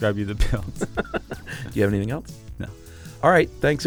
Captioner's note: both laugh